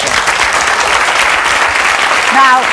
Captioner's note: audience clapping